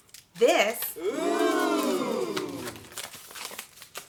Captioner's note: gasps sounding